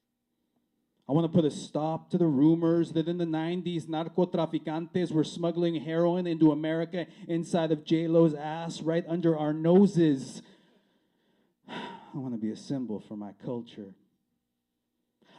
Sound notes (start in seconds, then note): none